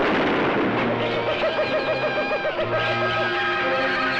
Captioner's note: gunshot fires; animals crying